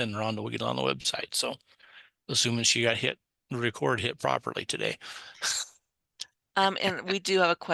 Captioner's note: laughs